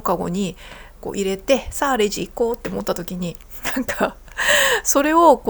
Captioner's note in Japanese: 笑い